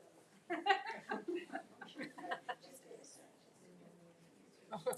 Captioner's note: attendees laugh